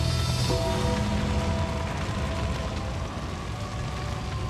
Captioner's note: bells tolling; haunting choral music